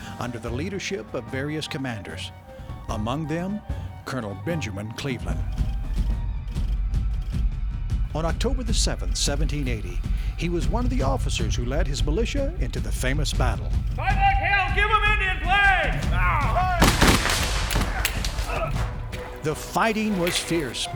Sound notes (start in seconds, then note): 14.0 Colonel yelling. Guns fired